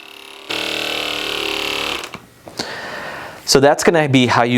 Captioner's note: massage gun vibrates